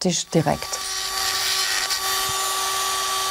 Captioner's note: whirring